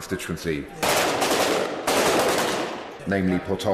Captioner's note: sounds of sporadic gunfire